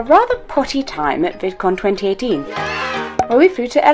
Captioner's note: cheer